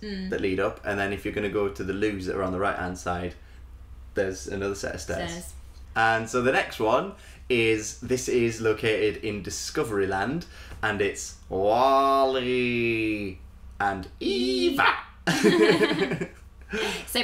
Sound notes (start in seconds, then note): 11.4 Impersonates Wall-E; 15.2 laughter